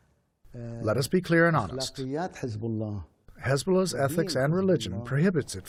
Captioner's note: through translator